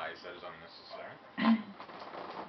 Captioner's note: clears throat